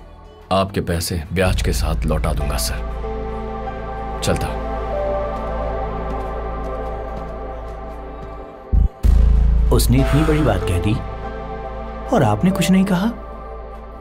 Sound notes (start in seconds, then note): 4.5 footsteps